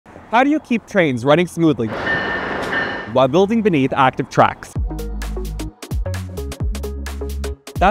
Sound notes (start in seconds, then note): 1.9 train clacking; 4.2 upbeat music